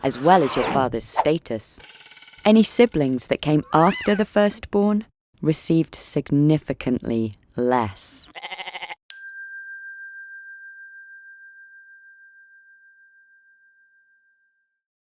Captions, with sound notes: as well as your father's status. Any siblings that came after the firstborn received significantly less. (goat bleats) (bell dings)